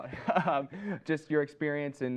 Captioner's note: laughs